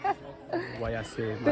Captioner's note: laughing